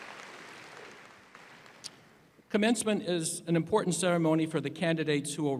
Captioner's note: applause